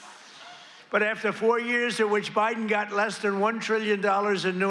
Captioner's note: laughter